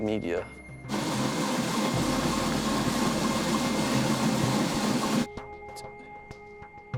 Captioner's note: treadmill whirring loudly over dramatic electronic music